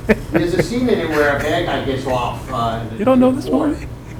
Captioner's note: snickering drowns out speaking